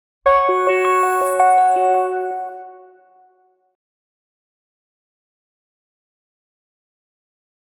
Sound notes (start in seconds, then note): 0.4 scene chiming